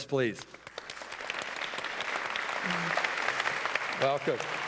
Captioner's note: applause